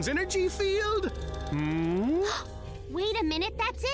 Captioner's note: gasps